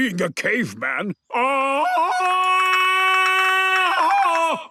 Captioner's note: Tarzan call